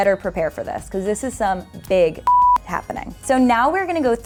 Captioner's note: beep